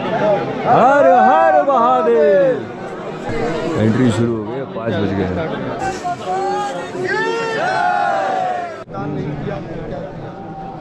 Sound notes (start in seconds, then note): 0.7 crowd chanting Har Har Mahadev!